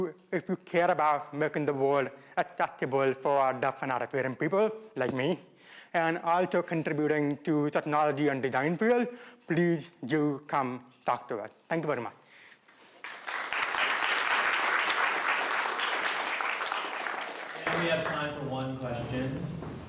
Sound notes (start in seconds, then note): 12.9 applause